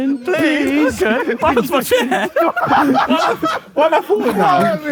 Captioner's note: group laughs